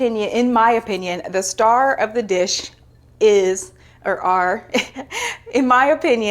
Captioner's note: chuckles